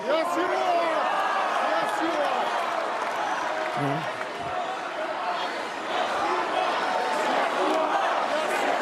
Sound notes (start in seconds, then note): 2.2 cheers and applause